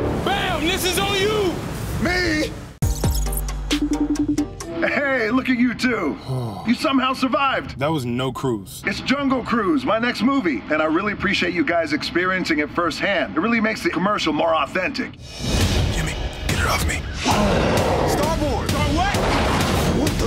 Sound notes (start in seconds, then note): 17.2 grawl